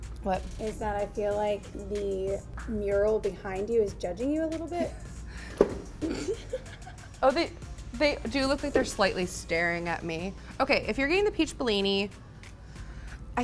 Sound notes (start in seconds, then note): 6.0 laughs